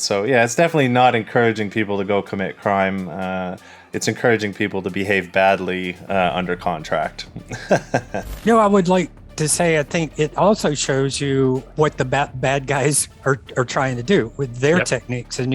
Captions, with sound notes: So yeah, it's definitely not encouraging people to go commit crime. It's encouraging people to behave badly under contract. (laughs) - No, I would like to say, I think it also shows you what the bad bad guys are trying to do with their techniques